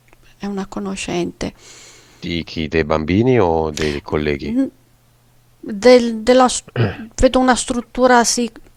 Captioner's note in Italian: schiarire la voce